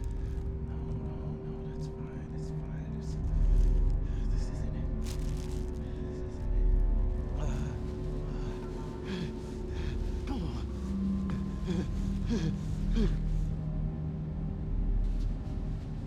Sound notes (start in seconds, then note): 7.0 gasping